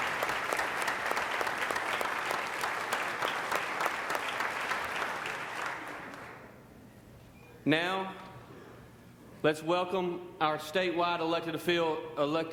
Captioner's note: applause